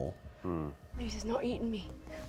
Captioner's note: Ikyulus grunts unhappily